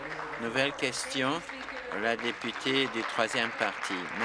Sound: applause

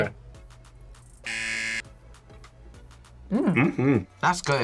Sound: buzzer

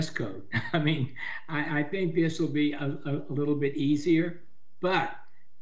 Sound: chuckles

